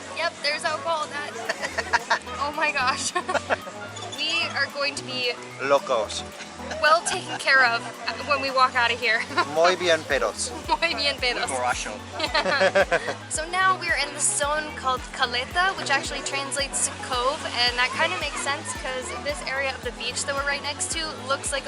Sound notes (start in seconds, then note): 1.1 laughs; 1.2 laughter; 12.1 laughter